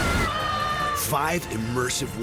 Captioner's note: thunder crashes